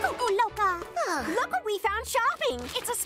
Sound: sighs

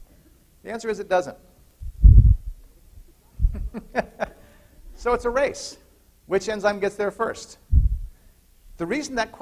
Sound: laughter

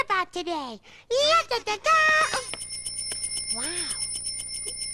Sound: bicycle bells ringing

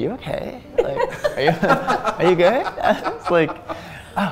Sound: chuckling

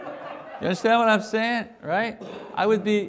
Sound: congregation Laughing

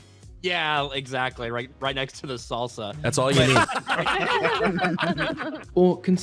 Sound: all laughing

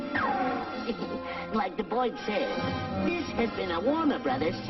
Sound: chuckles

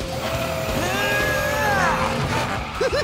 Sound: grunting; laughing

